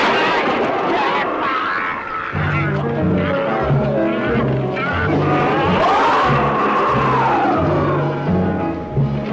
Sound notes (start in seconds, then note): 0.1 intense instrumental music; 4.6 creature roaring